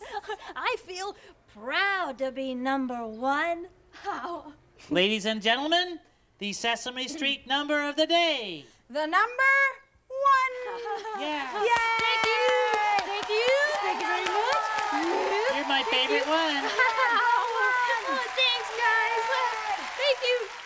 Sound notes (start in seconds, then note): 10.6 cheering and clapping; 16.7 laughing